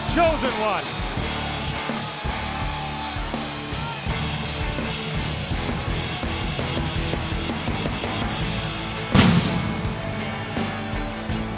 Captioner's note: crowd cheering